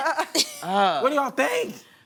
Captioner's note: laughter